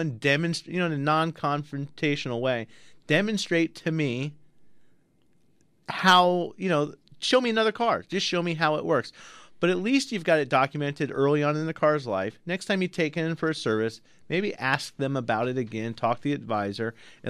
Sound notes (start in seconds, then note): none